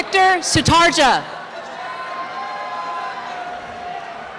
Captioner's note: cheering and applause